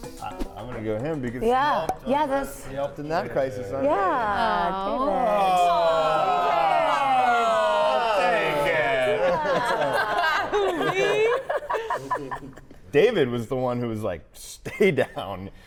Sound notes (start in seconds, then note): 8.5 all laughing